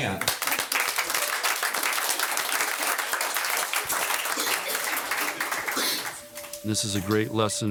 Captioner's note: audience applauding